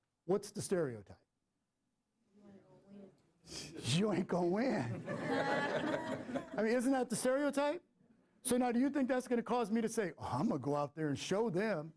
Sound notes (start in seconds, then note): 4.8 laughter